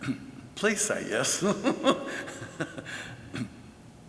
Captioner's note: laughs